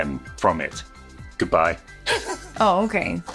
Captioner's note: laughs